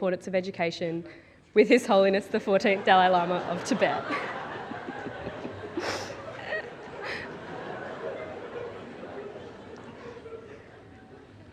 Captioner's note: audience laughs